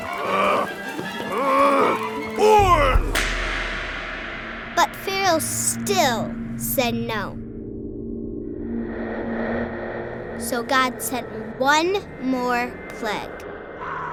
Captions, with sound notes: (Pharaoh yelling, whip cracking) - [Voiceover] But Pharaoh still said no. So God sent one more plague.